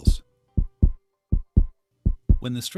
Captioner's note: heart throbbing